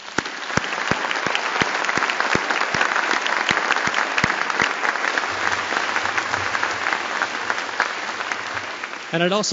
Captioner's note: applause